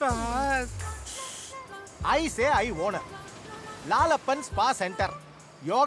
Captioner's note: broken English